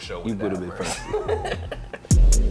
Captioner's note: laughing